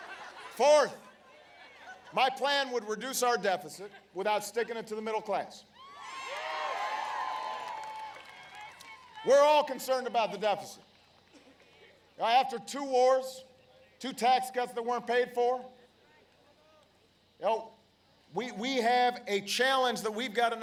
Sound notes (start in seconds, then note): 0.0 laughter; 9.6 applause